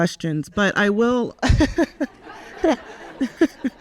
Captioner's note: laughs; audience laughs